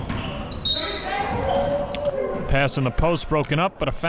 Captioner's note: whistle blows